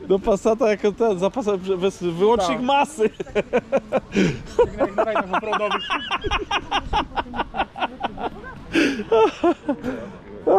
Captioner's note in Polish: śmiech